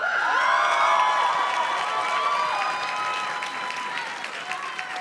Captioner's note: audience cheers and claps